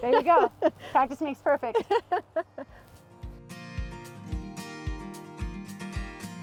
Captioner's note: laughs